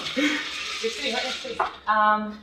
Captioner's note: chuckle